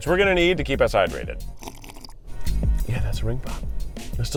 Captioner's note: slurps